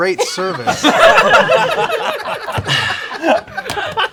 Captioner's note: laughter